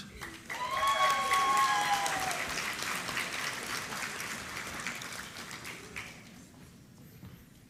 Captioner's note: applause